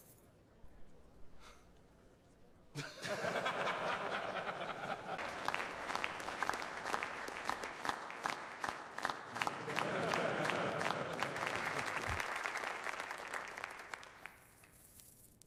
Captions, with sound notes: If you don't, I'll take your wives and feed them to my tigers. (laughter) (crowd applauding)